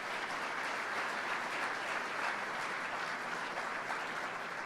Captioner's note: applause